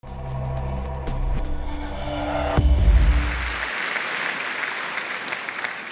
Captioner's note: applause